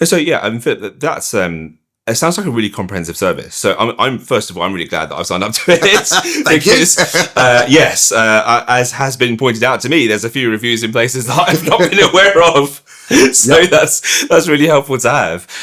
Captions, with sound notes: So yeah, Philip, that sounds like a really comprehensive service, so I'm, first of all, I'm really glad that I signed up to it. (laughing) Thank you. Yes, as has been pointed out to me, there's a few reviews in places that I've not been aware of. So that's really helpful to have.